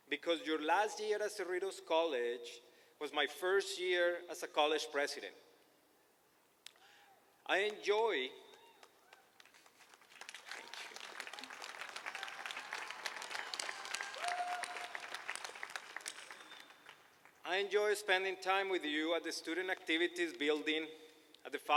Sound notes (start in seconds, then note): 10.2 applause; 12.5 applauding and cheering